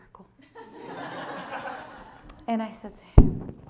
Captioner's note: members of the audience laughing